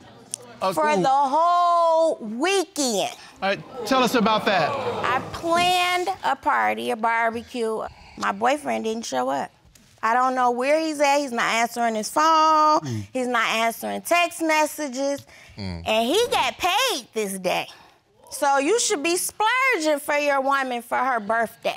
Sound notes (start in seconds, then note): 2.6 audience murmurs